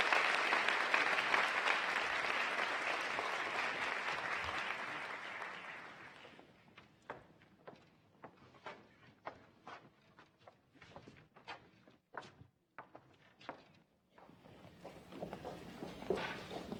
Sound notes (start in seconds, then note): 4.7 applause